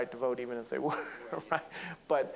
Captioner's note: laughing